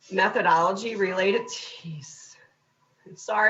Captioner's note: clock beeping